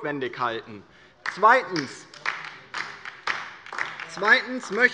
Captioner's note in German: Beifall DIE LINKE